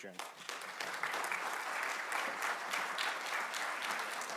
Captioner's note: audience clapping